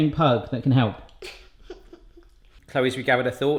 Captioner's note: giggles